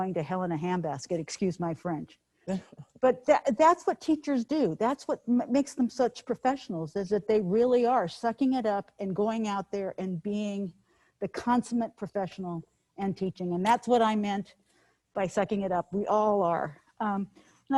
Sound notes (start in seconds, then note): 2.5 person chuckles